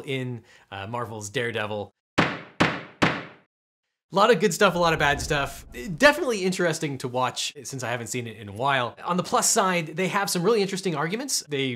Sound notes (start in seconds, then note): 2.3 gavel bangs